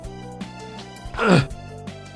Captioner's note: grunt